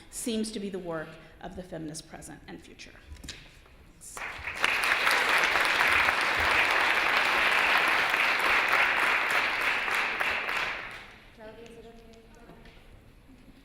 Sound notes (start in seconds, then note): 4.1 applause